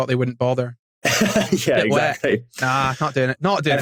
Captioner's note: laughs